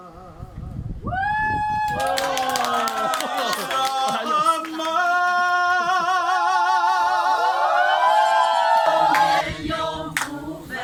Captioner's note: cheering